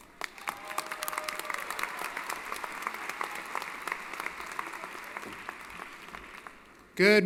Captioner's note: applause & Cheering